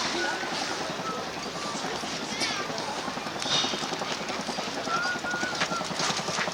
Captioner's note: helicopter sounds